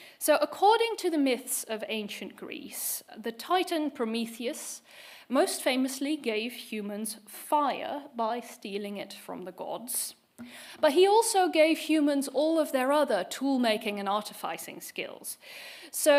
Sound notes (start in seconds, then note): none